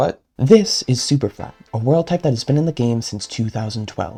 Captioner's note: voiceover